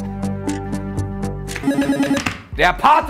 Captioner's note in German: Buzzer